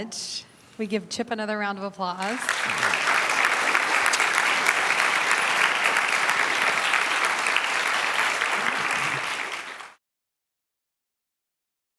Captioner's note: audience applauds